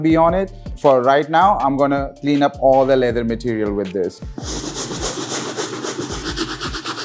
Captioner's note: brushing Intensifies